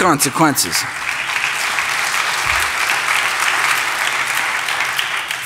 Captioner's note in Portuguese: Aplausos